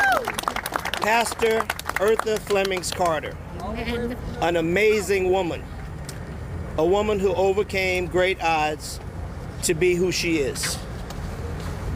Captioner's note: applause